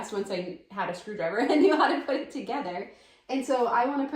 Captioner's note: laughing